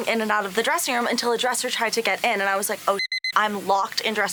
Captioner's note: beep